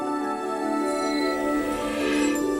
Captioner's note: tingling